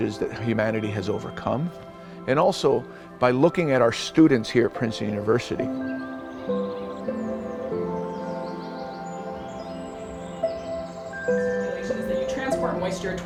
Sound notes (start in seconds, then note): 6.4 soothing music; 8.5 birds chirping